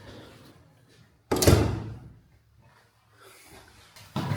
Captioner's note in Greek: Κλείσιμο πόρτας